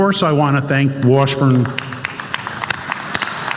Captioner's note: applause